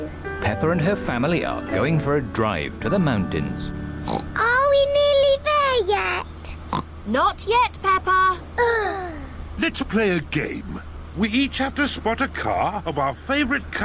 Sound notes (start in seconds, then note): 4.0 oinks; 6.7 oinks; 8.6 both sigh